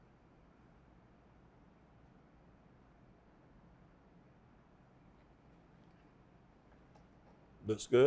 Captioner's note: silence